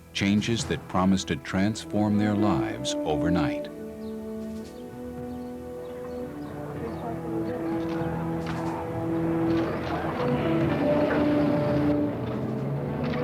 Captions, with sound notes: changes that promise to transform their lives overnight. [birds chirping] [camera shutters clicking] [car engine rumbling]